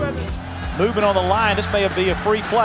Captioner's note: voiceover